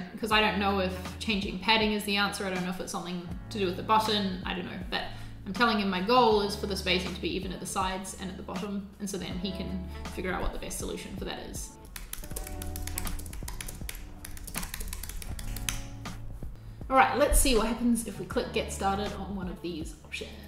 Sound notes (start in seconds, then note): 11.8 keyboard clicking